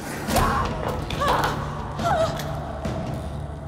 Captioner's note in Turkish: Aslıhan çığlık sesi; Müzik - Gerilim